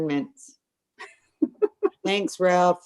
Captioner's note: laughing